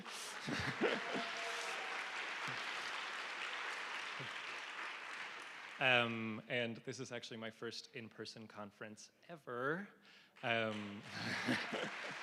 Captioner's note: applause